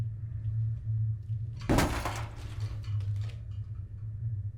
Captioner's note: light rattles